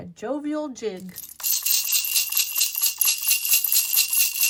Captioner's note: bells jingle